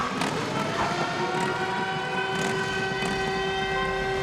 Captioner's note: sirens blaring